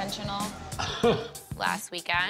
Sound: chuckles

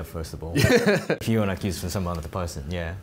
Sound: laughing

